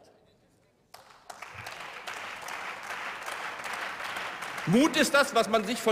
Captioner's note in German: Beifall